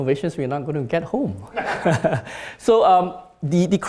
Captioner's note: laughs